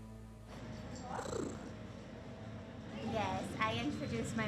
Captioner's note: cat purrs